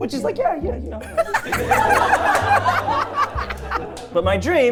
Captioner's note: everyone laughing